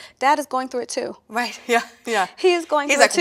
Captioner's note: laughs